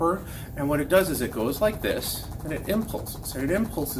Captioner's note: machine rapidly clicking